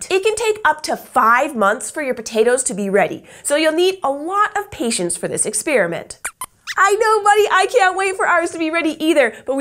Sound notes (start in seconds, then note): 6.2 squeaks squeaks